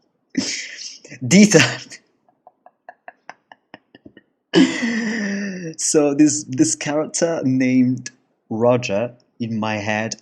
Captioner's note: laugh